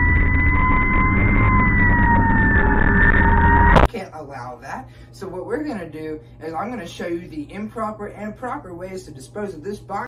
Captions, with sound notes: *sounds of catastrophe* we can't allow that so what we're gonna do is I'm gonna show you the improper and proper ways to dispose of this box